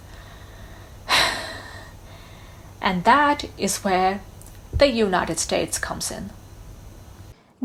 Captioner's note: sighs